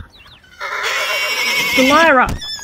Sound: foals neighing

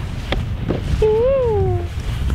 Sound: high pitched* Eww!!

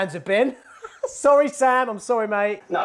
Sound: laughing

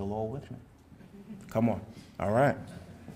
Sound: audience murmurs

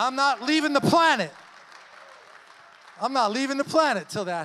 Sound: congregation cheers and applauds

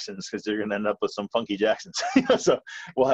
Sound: laughs

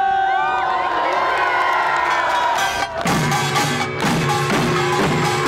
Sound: everyone cheering

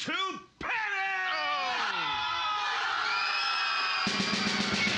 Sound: audience screaming; snare drum pounding

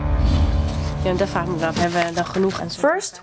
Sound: speaking in Dutch

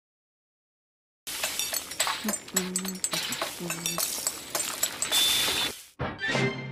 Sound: cooking noises

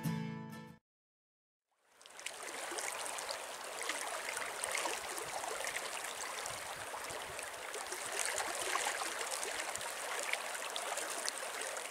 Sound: sound of running water

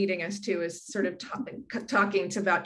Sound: laughs

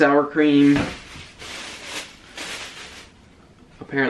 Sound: plastic crinkling

